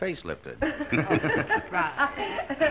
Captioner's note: all chuckling